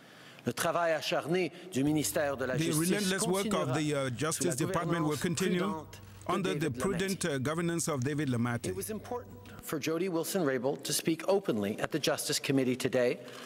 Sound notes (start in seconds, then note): 3.6 speaking french